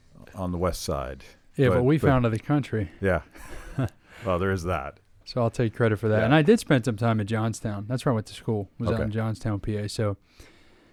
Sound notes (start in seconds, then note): 3.5 laughs